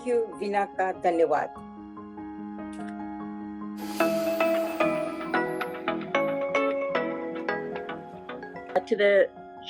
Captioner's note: non-english speech